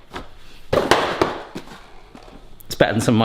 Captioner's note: box slams